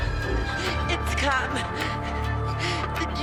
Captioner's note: Marlee gasping; gasping